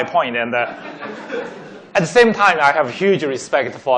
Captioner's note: laughing